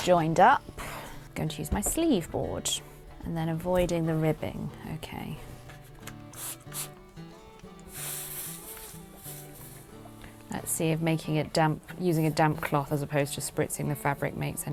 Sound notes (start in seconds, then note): 6.3 water sprays; 7.8 iron sizzles